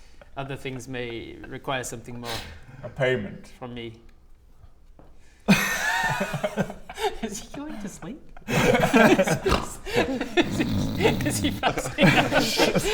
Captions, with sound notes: other things may require something more a payment from me *giggles* Is he going to sleep? *snores* Is he fast-*laughs*